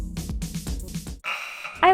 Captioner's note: hockey buzzer